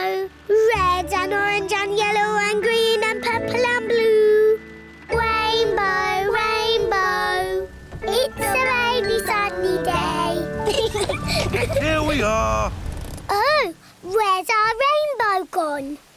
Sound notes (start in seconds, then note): 10.6 both laugh